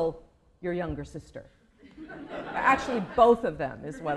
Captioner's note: laughter